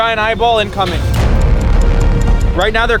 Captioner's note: clock ticking; intriguing dramatic music